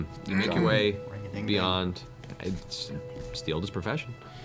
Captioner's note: clears throat